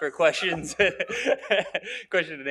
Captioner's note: laughing